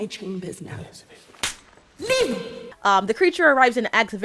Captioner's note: slap